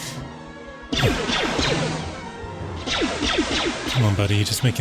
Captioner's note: exclaims; gunshots